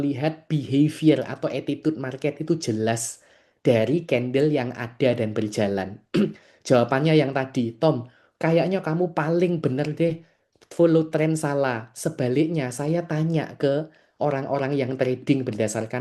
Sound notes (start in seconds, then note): 6.1 berdehem